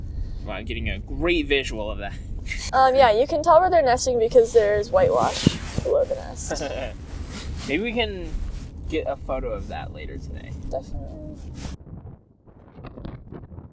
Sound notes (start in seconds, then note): 6.3 laughs